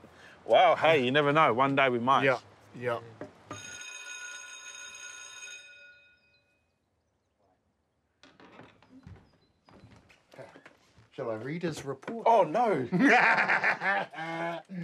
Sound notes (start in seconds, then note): 3.5 bell rings; 12.8 laughing